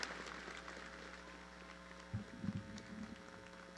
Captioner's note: cheering